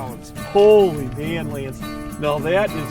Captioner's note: voiceover